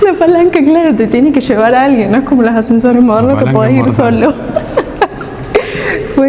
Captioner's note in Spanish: risas